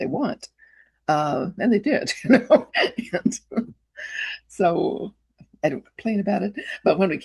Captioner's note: chuckles